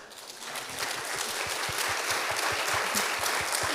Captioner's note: applause